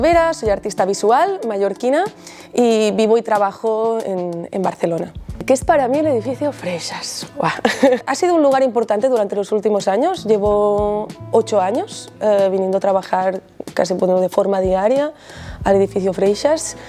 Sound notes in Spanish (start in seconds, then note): 7.6 risas